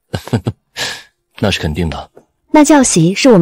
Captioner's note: sharp intake of breath